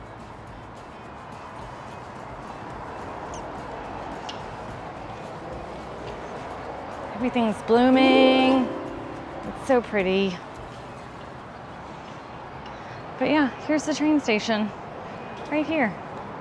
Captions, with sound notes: Everything's blooming. (magical sound) It's so pretty. But yeah, here's the train station right here.